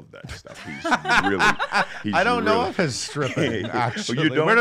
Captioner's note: laughs